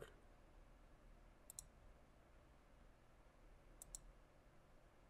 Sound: mouse clicking

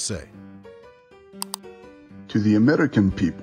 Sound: click

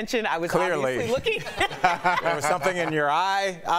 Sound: laughter

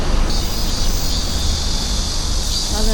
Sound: cicadas screaming… yeah it was summer

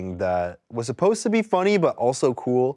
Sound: none

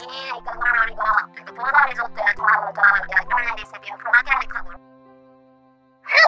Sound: human gibberish

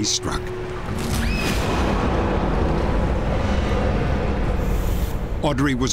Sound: scream

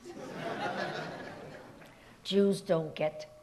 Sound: audience laughs

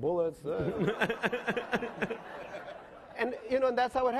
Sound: laughing

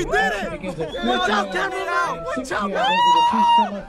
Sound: cheering

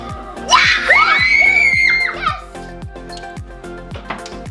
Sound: all shouting

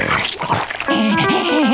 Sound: laughing

